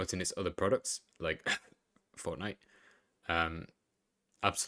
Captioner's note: cough